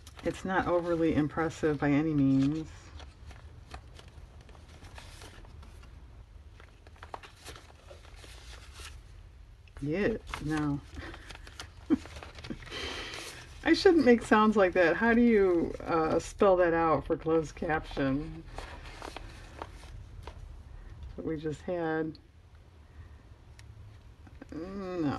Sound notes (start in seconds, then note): 11.9 laughs